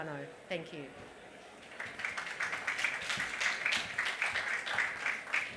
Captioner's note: applause